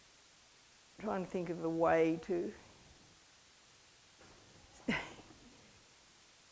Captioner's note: laughs